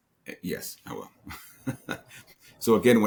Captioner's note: laughs